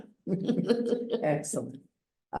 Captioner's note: laughs